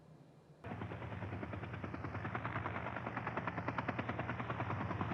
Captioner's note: helicopter whirring